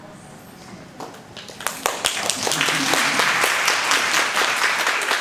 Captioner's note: participants applauding